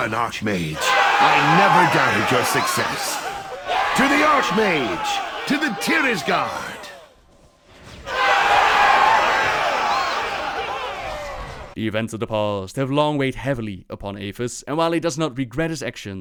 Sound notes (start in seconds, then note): 6.3 cheer